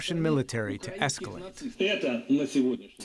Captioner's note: through translator